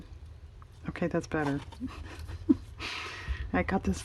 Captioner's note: laughs